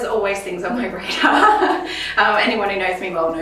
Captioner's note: both laughs